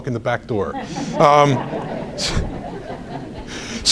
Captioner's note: audience laughs